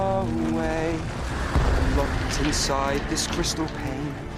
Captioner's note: rumbling